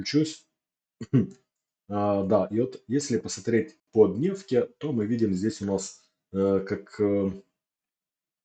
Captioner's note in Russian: откашливается